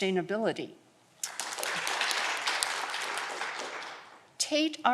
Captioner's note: audience clapping